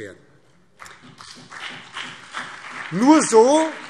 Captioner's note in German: Beifall BÜNDNIS 90/DIE GRÜNEN und CDU